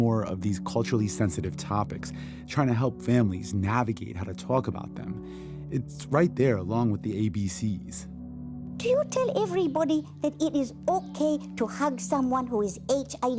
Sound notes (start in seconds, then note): 8.1 soundbite of tv show, "sesame street"